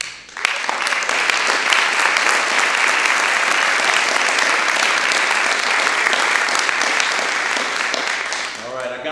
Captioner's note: applause